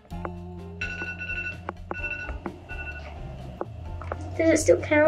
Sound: phone ringing

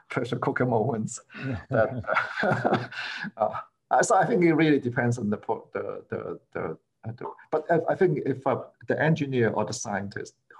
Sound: laughter

